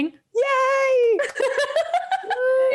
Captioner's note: laughs